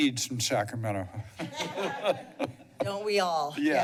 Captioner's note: laughter